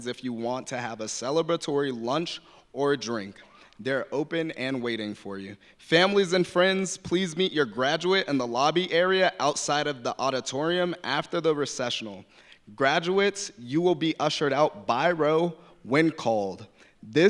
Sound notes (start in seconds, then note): none